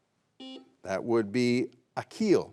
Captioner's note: buzzer beeps